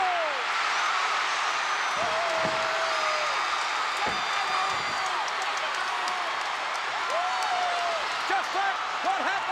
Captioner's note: applause